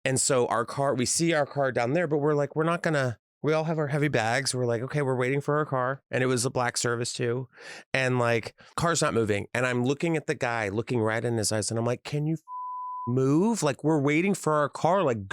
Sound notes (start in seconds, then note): 12.4 beep